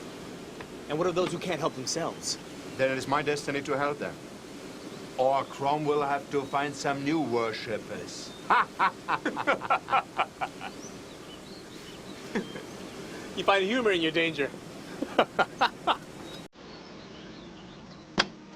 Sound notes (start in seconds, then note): 8.4 laughs; 14.9 laughs